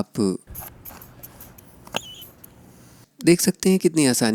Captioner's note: object squealing